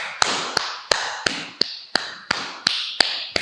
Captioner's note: clapping triplet beats